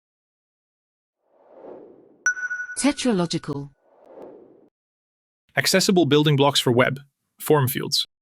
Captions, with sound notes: [logo whooshes in] TetraLogical [logo whooshes out] Accessible building blocks for web: form fields